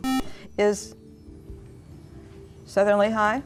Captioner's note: buzzer